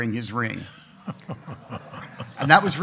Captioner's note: everyone laughing